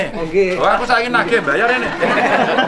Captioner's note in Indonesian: tertawa